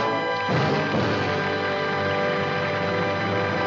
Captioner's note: applause